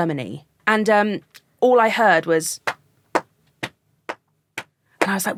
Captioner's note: clapping rhythmically